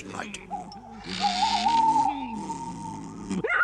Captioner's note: car noises continue